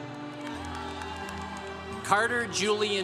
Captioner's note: congregation cheering